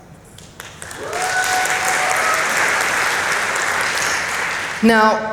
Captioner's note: applause